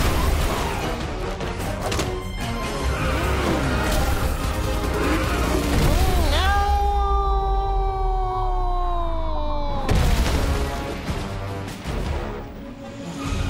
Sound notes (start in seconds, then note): 0.1 glass shattering; 1.9 lever clicks; 2.9 engine roaring; 9.8 booming thud; 11.0 intense music